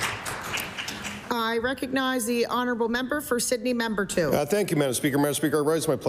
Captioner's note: applause